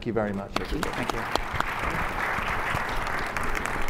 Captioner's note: applause